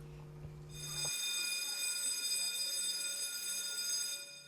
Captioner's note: bell ringing